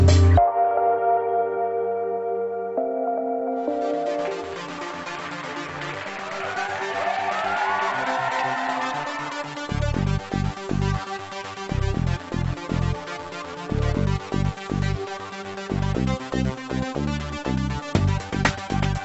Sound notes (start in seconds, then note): 4.1 upbeat techno music; 4.3 crowd cheering; 9.7 upbeat techno music